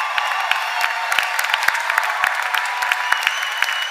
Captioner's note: cheers and applause